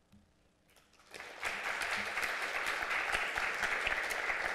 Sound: applause

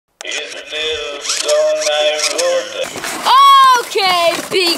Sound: mechanical whirring

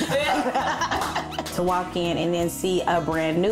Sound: all laughing

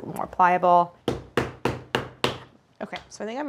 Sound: dough whacking

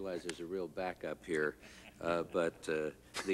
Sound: laughter

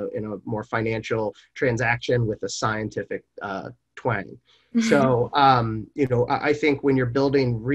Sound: chuckles

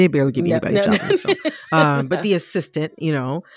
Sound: laughter

